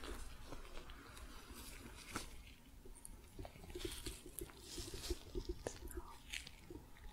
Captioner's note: sticky sounds, light tapping